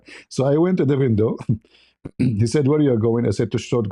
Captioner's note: berdehem